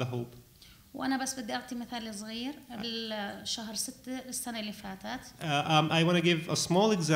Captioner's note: speaking arabic